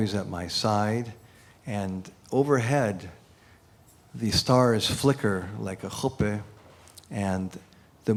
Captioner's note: non-english speech